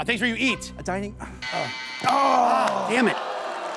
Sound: buzzer

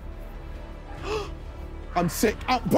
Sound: gasping

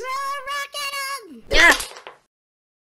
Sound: recycling Bin yelps when hit

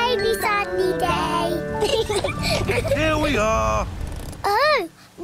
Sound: both laugh

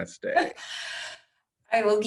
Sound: laughter

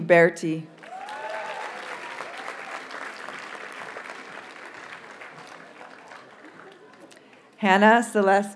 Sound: audience cheers and applauds

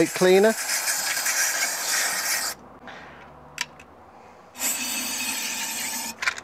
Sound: aerosol spraying

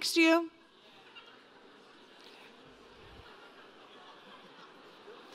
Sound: laughter

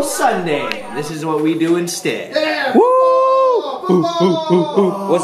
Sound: all cheering

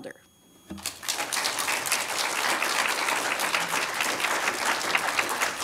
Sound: applause

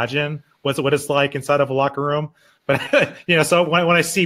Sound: laughing

